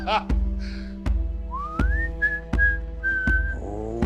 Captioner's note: Charles whistling